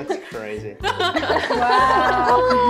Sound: cheeky laughing

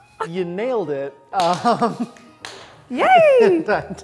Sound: clapping

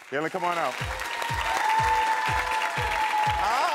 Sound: audience cheering

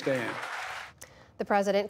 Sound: applause

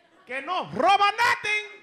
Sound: speaking Spanish

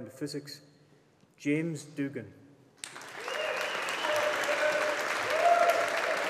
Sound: audience applauding

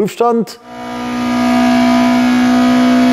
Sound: engine sound

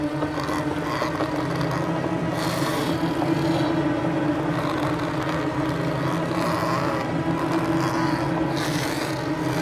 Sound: snarling

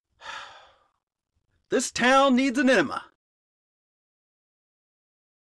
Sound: sighs

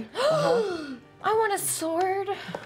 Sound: gasps

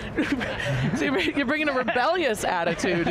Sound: laughing

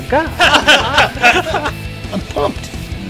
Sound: laughing

